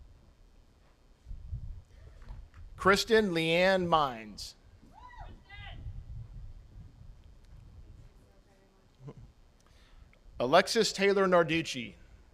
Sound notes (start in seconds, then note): 4.9 attendees cheering; 9.0 chuckles